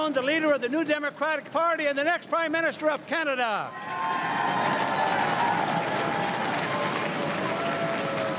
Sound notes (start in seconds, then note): 3.7 crowd cheering and applauding